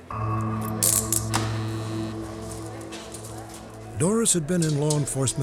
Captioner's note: door buzzes